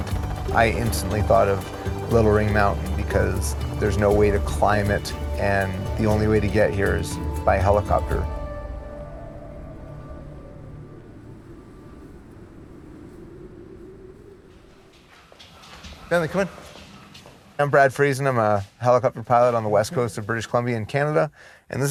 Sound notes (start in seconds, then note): 9.3 wind blowing; 14.8 paws scratching the floor